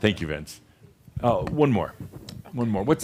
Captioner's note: whispers